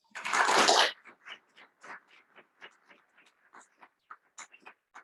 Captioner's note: attendees clapping